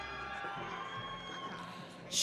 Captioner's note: audience cheering